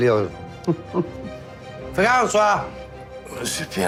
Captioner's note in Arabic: يضحك